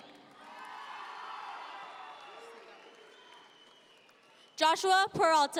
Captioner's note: audience members cheer